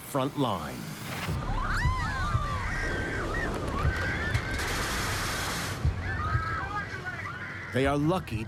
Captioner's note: people screaming